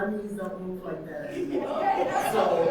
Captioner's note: audience laughing